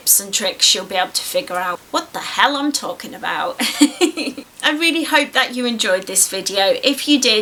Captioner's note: giggles